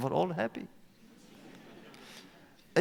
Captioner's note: laughter